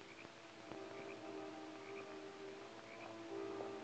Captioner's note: dramatic music; frogs croaking